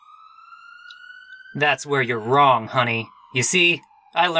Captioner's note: sirens in the distance